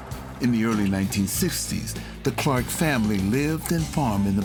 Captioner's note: voiceover